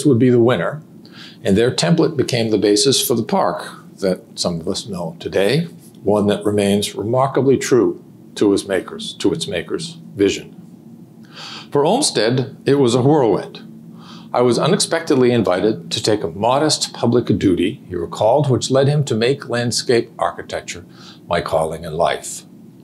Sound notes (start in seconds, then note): none